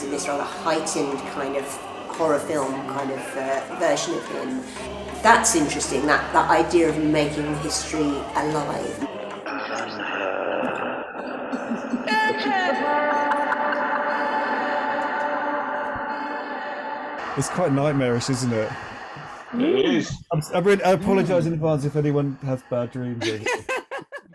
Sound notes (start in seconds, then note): 9.6 creepy voices